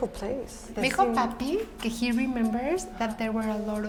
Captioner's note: speaking Spanish